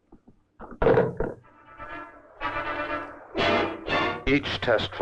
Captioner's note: tense orchestral music; machinery whirring